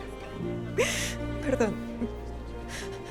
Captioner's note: Solloza